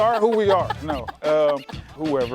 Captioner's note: laughs